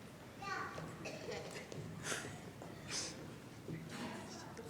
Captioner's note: chatter